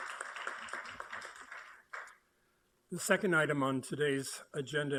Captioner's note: applauding